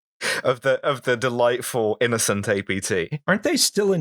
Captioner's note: laughter